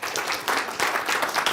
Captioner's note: applause